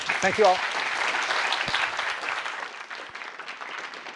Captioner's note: applause